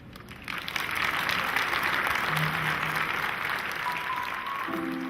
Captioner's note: audience applause